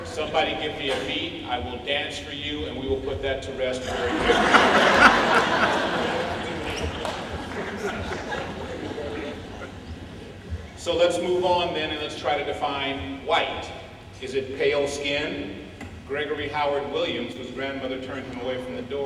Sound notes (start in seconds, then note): 3.8 laughter